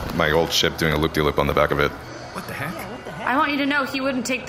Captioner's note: quietly